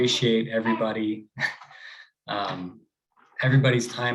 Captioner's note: chuckles